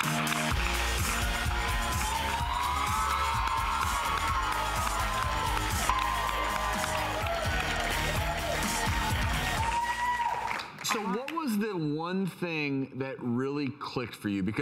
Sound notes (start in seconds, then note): 0.1 upbeat music; 2.2 audience applauding